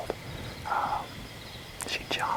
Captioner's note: whispering